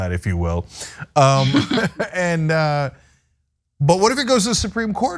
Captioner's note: laugh